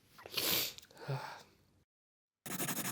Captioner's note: sigh